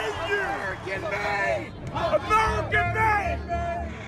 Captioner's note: crowd cheering